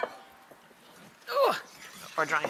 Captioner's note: groans